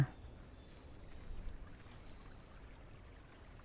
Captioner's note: water splashing